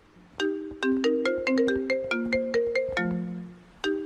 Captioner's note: phone rings